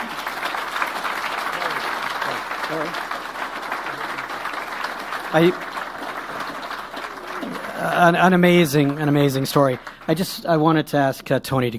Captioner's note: applause